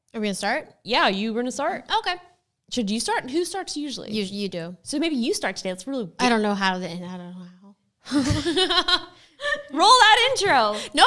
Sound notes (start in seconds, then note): 8.1 both laugh